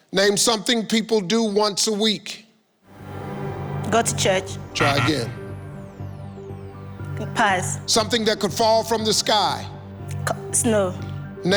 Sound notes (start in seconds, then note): 4.0 suspenseful music; 4.7 computer beeps